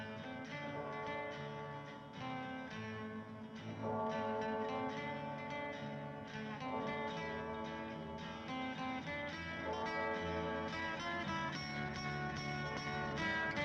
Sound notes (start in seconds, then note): 0.0 church bell continues ringing; 0.0 soft instrumental music; 0.6 church bell continues ringing; 0.8 soft instrumental music continues; 12.1 soft instrumental music continues